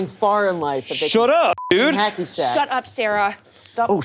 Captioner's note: beep